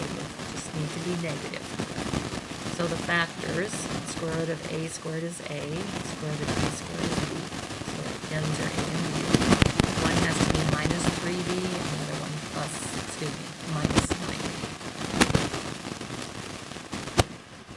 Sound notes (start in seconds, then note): 8.2 static overpowers voice